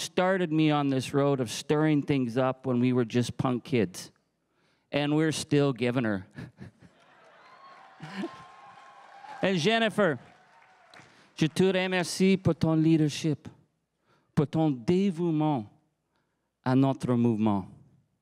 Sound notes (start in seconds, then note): 6.3 chuckles; 11.9 crowd cheering and applauding